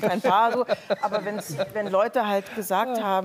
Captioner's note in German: Lachen